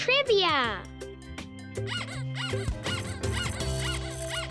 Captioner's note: squeaking